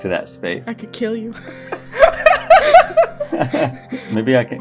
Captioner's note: laughter